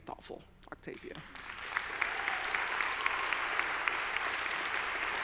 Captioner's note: audience applauding